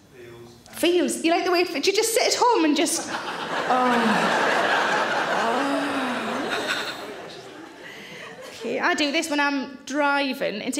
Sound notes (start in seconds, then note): 2.9 audience laughs